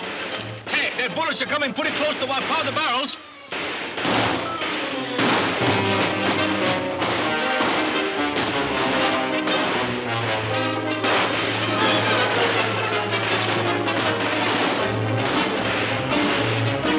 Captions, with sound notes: - Tex, their bullets are coming pretty close to our powder barrels. (guns firing) (dramatic music)